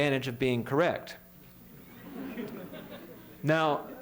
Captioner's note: laughter